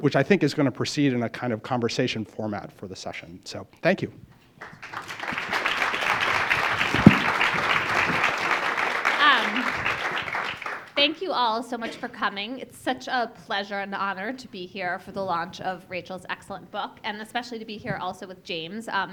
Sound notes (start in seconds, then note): 4.6 applause